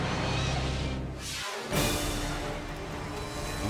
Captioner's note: air whooshes